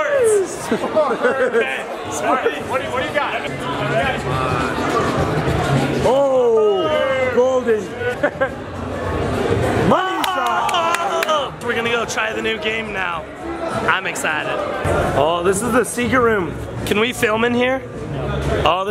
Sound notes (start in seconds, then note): 0.5 laughing; 8.0 laughing; 10.1 claps